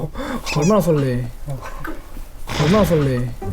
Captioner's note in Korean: 뜯뜯